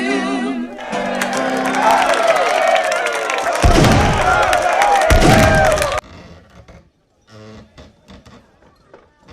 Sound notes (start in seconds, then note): 0.8 applause